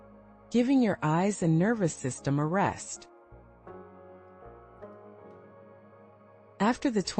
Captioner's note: pause